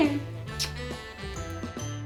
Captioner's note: kissing; christmas music playing